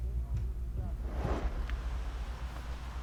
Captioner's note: whoosh transition sound